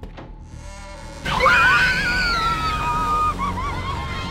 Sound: screaming

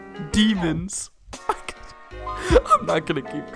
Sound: laughter

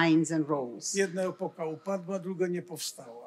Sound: foreign language

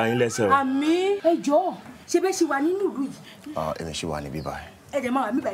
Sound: speaking foreign language

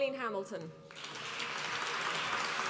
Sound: applause

